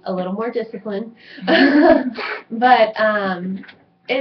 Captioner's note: everyone laughs